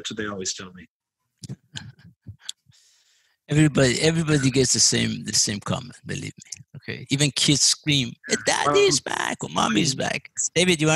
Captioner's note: laugh